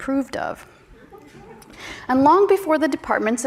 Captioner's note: audience chuckles